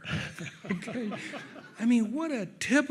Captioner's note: audience laughs